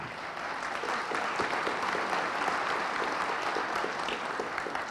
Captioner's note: audience applauding